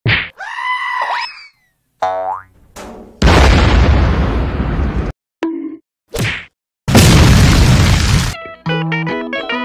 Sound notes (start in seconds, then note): 0.3 goat Scream; 3.2 boom!; 6.9 boom again